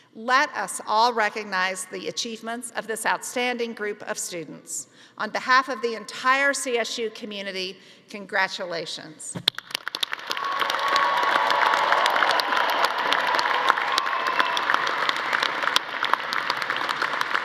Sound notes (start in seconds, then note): 9.5 audience applauding; 10.2 audience cheering